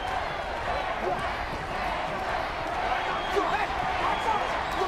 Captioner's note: audience cheering